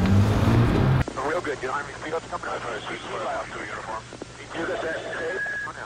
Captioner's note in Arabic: ثرثرة راديو الشرطة